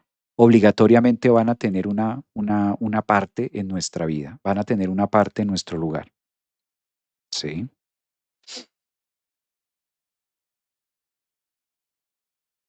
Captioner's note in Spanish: resoplido